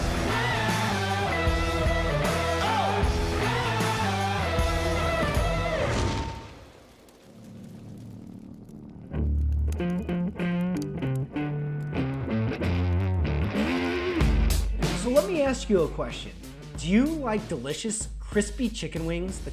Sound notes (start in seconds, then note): 4.2 fire crackling; 9.5 upbeat rock music